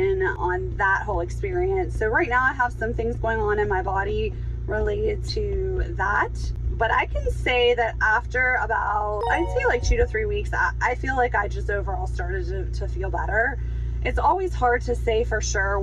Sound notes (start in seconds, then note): 9.2 chime ringing